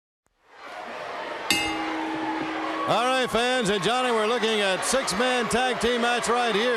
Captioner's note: bell ringing